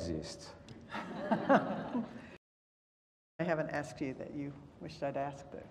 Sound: laugh

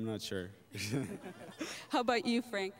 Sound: laughter

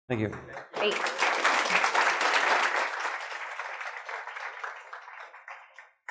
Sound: applause

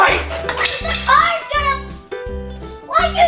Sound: mallet clatters

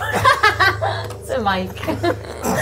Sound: laughing

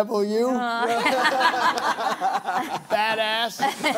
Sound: laughter

